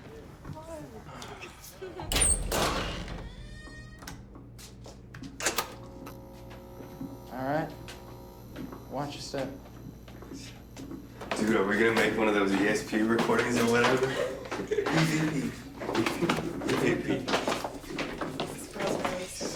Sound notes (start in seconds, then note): 2.0 door creaks; 5.2 lights buzz; 17.7 chattering